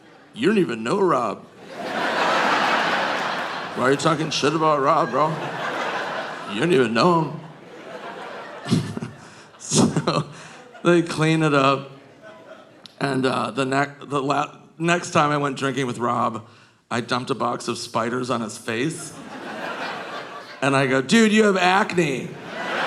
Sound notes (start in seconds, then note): 2.2 audience laughing; 8.8 chuckles; 21.2 audience laughing